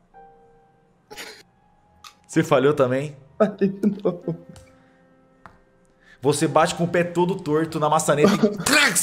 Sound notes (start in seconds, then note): 3.4 laughter